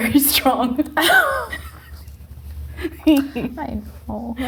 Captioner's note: both laughing